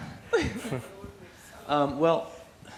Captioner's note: laughs